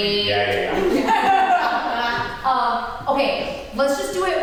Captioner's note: cast and crew laugh